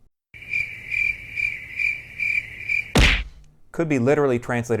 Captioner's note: cricket sounds